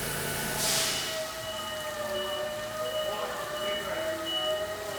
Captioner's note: machinery whirring and beeping; workers chattering